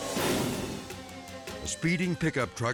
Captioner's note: sirens blaring; air whoosh; dramatic music; sirens blaring